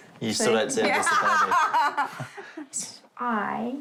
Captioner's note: laughs